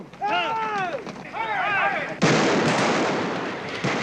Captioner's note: gunshots